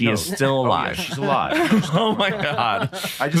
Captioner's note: all chuckle